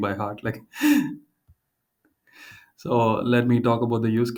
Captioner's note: laughs